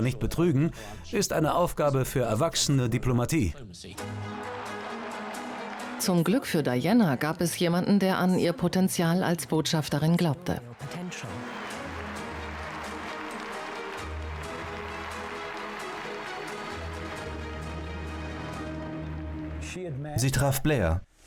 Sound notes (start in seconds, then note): 11.7 crowd applauds